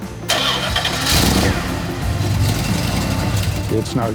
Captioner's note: upbeat music; car engine revving